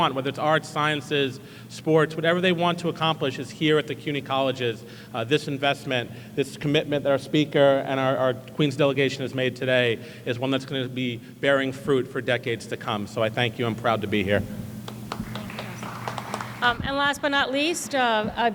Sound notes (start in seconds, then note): 14.8 applause